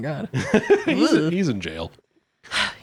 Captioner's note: laughing